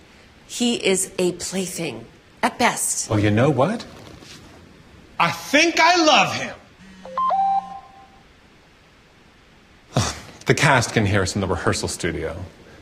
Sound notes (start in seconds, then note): 6.8 phone beeps; 9.9 sighs